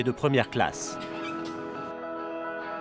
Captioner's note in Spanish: crujido de puerta